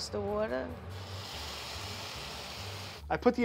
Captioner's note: pan sizzling